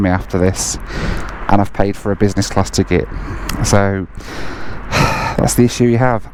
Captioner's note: sighs